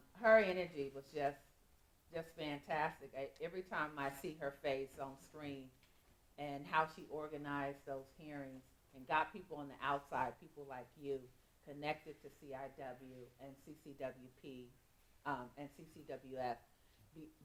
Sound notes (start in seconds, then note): none